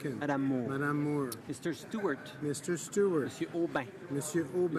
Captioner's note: speaking in french